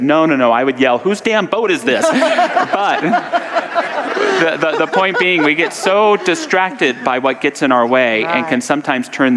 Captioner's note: audience laughter